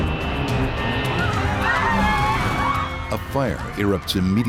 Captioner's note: airplane engine roaring; passengers screaming